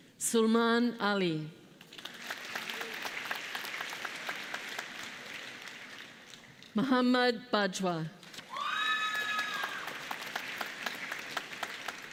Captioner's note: applause